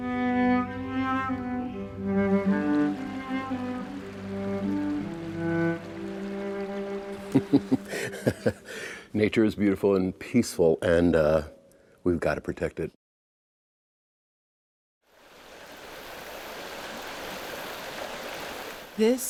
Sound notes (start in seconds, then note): 1.8 water babbling; 7.1 soft laughter; 15.6 water running